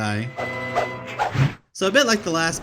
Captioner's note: epic baton twirling sounds